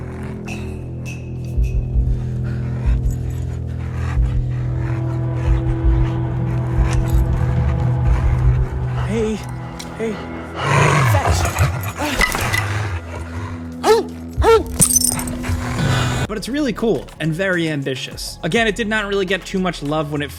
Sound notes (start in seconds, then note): 1.2 intense music; 12.0 stick clangs; 12.1 dog barks